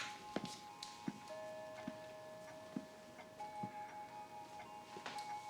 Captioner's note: clock chiming softly